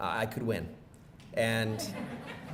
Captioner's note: laughing